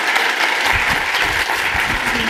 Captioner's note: applause